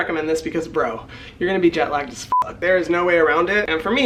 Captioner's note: beep